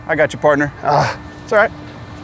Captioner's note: groans